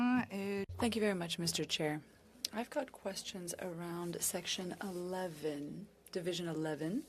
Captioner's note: speaking French